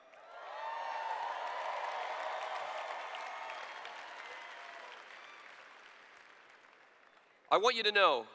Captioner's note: cheers